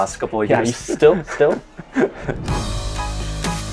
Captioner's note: laughs; upbeat hip hop music